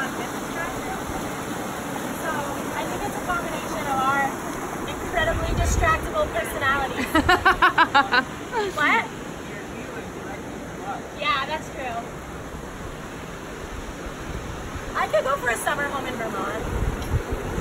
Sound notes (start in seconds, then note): 6.9 laughs